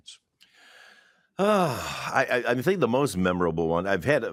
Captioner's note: sighs